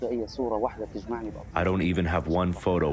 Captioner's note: through translator